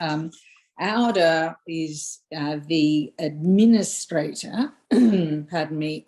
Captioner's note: clears throat